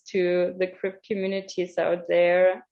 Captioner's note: none